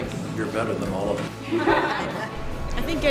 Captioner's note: laughter